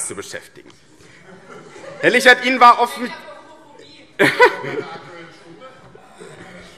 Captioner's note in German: Heiterkeit - Zurufe - Gegenrufe AfD